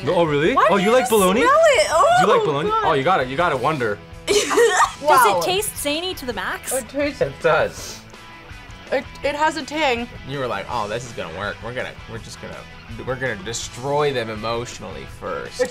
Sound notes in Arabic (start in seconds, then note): 4.3 يضحك